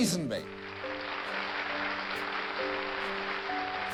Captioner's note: applause